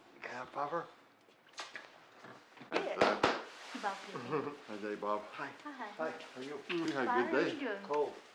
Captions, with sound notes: Can I have a popper? (all greeting each other)